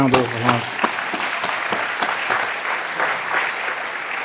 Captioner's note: applause